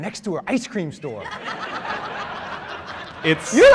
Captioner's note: laughter